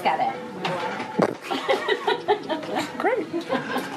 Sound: laughing

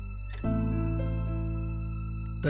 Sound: door opens

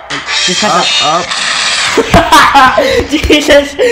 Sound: bomb explodes laughs

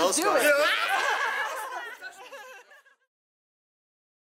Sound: laughter

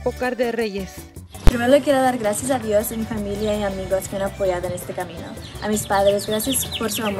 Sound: speaks in foreign language

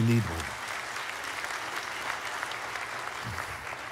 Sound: applause

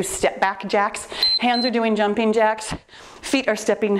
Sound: timer beeps

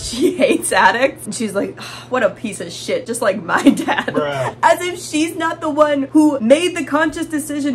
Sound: laughing

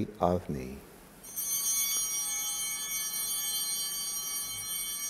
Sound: altar bells ringing

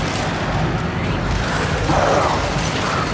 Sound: growling

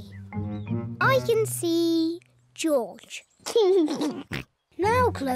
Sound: laughs

